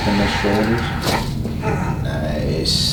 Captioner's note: patient grunts